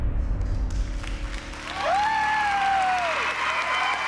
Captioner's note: applause and cheers